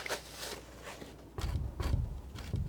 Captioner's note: scratching